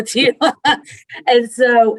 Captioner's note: laughs